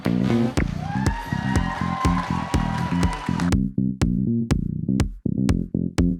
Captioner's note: audience cheers and applauds